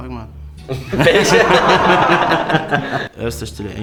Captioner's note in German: alle lachen